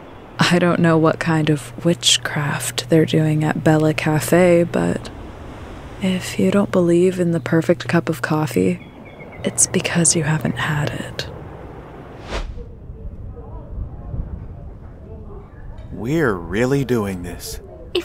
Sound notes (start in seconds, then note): 12.0 transitional whoosh; 12.5 We hear the wind blowing and the muffled sound of people inside Bella Café